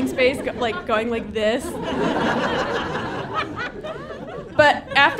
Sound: audience laughing

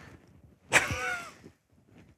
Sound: laughs

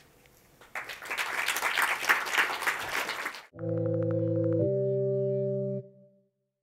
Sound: applause

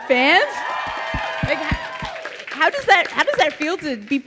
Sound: audience cheering

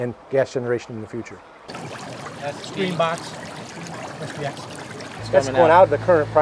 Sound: bubble noise

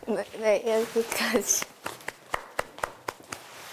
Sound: applause

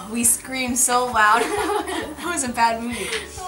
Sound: laughing

